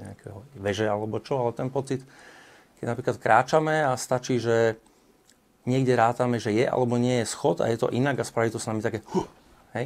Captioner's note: gasps